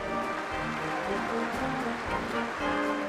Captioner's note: applause